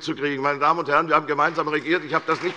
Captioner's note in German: Beifall bei der CDU und dem BÜNDNIS 90/DIE GRÜNEN